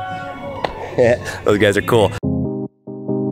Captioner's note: chuckles; soft music